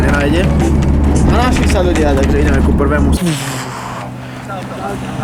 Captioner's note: radio playing